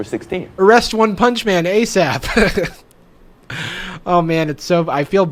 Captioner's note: laughs